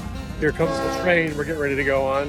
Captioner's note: train whistle toots